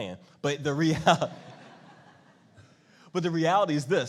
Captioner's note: laughing